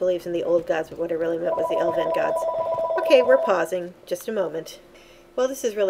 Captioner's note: phone ringing